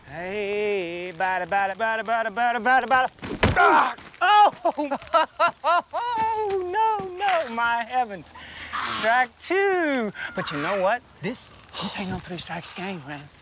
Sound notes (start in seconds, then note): 3.6 groans; 4.2 laughs